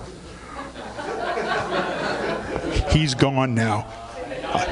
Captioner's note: audience laughing